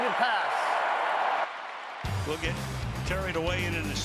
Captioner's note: cheering